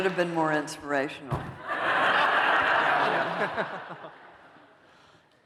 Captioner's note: laughter